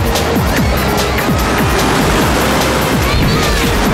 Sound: screaming

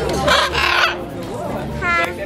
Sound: birds squawking

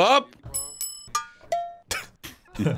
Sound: bell chiming; laughing

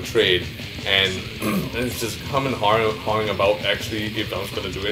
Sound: clears throat

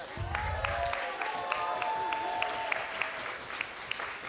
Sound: applause

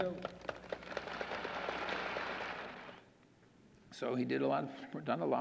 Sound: audience applauding

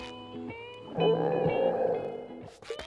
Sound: stomach growling

